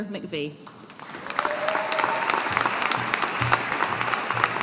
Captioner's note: audience applauding